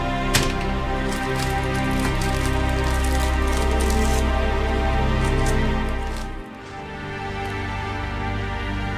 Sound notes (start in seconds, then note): 0.3 plastic wrapper rustling